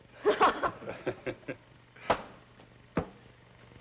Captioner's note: laughs